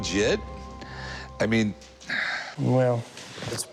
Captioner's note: sighs